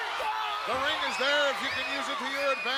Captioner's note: Diesel screams